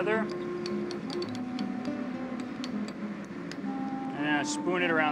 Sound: spoon scrapes

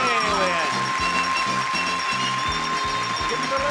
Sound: audience applauding; bell ringing

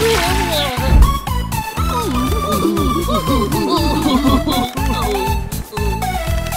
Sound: whimpering

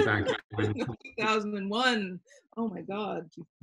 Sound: laughing

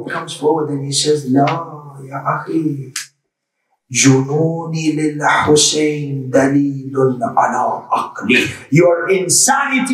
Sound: Arabic

